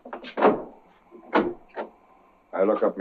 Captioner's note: door opens